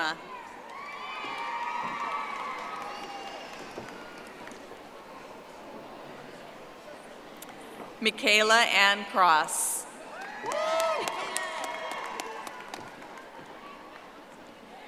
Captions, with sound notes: Crystal Corona. (audience applauding) Mikayla Ann Cross. (audience applauding)